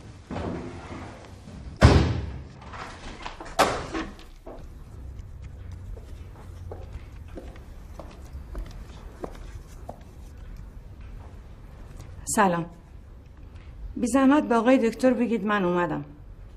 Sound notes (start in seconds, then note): 1.8 door closing; 3.6 thud